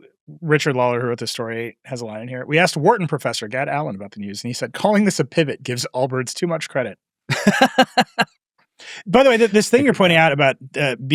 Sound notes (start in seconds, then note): 7.3 laughs